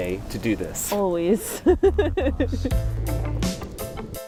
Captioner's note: laughs; technopop music